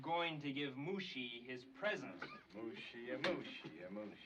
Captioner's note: coughs